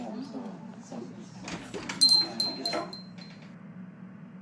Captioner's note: door opens, bell jingles